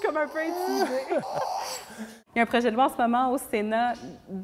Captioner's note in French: rires